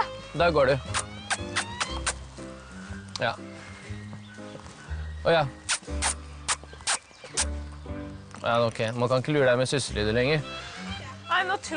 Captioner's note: making kissing sounds